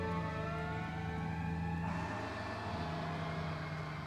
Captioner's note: sirens blaring